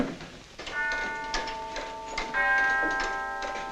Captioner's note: clock chiming